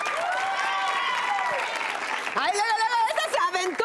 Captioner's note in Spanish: Aplausos